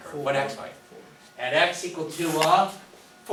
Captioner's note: voiceover